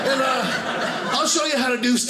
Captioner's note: audience laughing